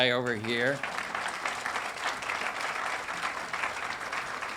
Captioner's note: audience applauding